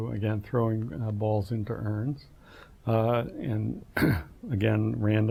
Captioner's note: cough